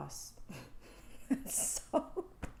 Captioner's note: fake tears and awkward laughs